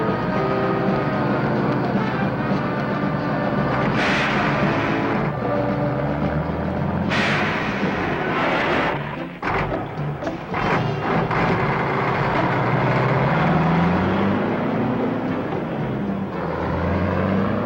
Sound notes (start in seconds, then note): 0.3 suspenseful music; 3.8 truck hisses; 6.0 truck engine whirring; 6.9 truck hisses; 10.6 engine sputters; 14.0 truck engine whirring